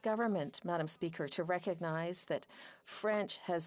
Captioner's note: speaking French